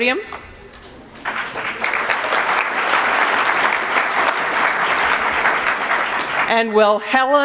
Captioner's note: applause